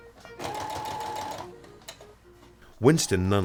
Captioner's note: sewing machine whirs